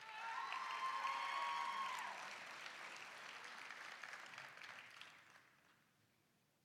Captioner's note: applause, cheering